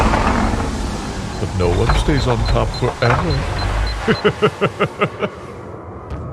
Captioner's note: laughter